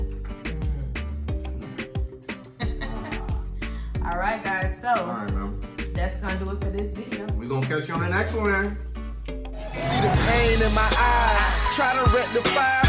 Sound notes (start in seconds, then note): 2.2 laughing